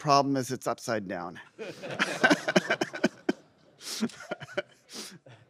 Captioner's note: laughter